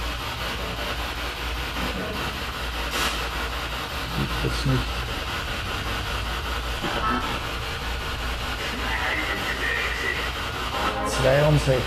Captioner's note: radio noise from the spirit box